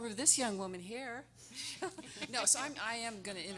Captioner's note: everyone laughing